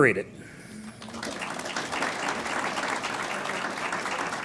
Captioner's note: audience applauds